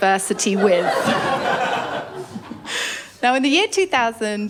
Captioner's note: laughter